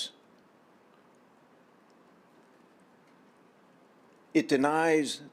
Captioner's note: silence